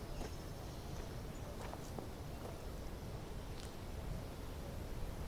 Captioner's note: gravel crunching